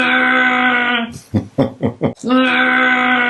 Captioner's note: groans